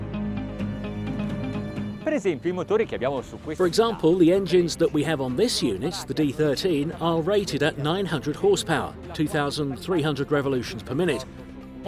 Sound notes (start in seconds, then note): 0.1 bright music; 2.3 speaking foreign language